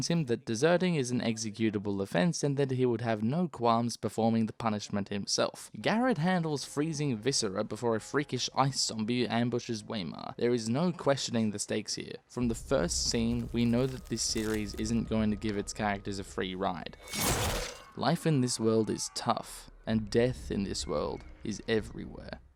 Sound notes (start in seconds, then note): 17.0 sword noise